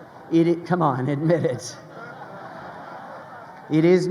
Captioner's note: crowd laughing